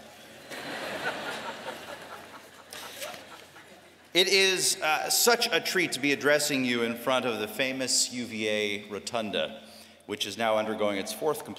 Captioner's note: laughter